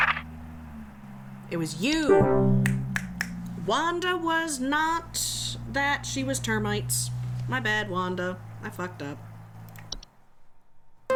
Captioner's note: snapping